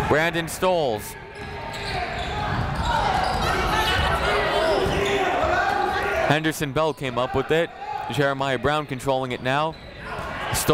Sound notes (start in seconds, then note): 1.0 chatter